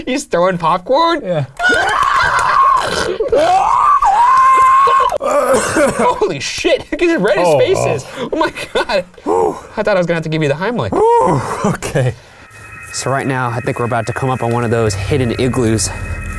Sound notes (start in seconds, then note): 2.2 squealing; 5.2 clears throat